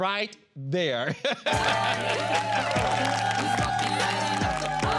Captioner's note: all cheering; r&b music playing